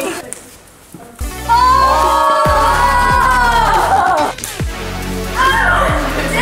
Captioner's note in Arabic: الجميع يصرخ في حماسة